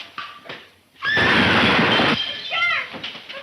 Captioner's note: glass shattering; Mary screaming; loud explosion